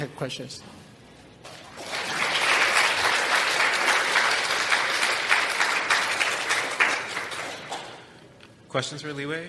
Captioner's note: audience clap